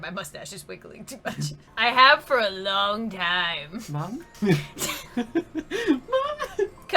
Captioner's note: lols